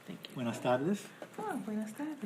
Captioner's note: speaking foreign language